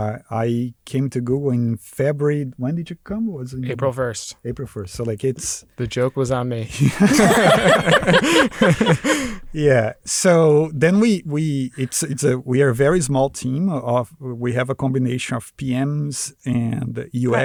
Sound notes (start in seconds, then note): 6.7 laughter